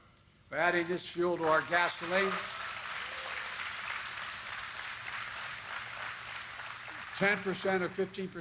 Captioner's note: applause